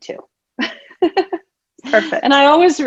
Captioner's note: laughs